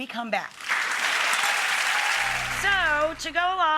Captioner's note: audience applauds and cheers